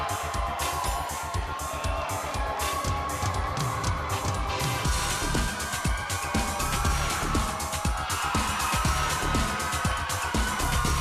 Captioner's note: crowd cheering